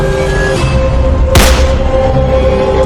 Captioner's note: gun Shot